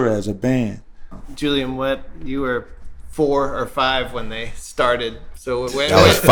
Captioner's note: laughter